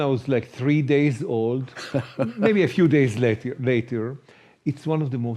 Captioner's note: chuckles